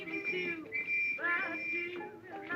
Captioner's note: whistle